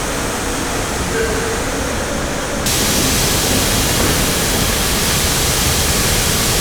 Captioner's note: engine revving